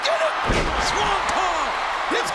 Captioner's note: audience cheering; bodies thud